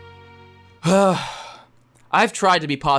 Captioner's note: sigh